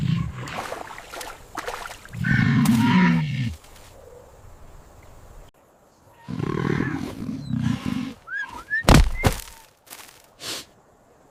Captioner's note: groaning